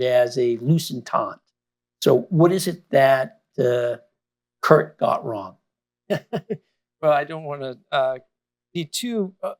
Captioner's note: laughs